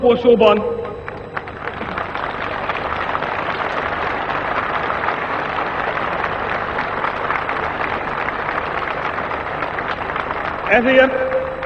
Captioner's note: applause